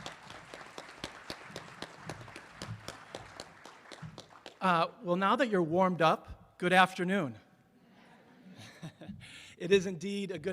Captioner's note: applause